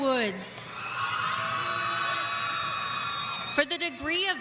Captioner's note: audience cheering